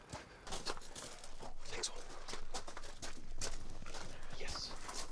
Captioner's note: footsteps crunching